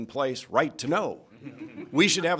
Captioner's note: laughter